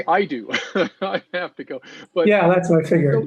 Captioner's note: laughs